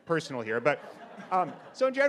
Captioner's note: audience laughs